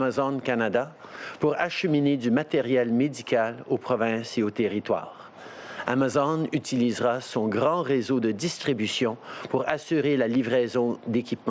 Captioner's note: speaking French